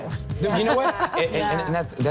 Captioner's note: laughs